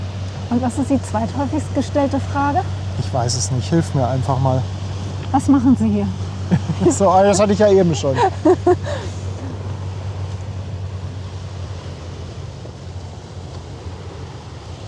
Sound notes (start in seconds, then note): 7.9 laughs